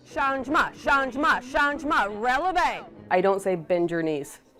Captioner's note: speaking French